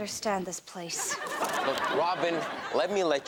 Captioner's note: audience laughs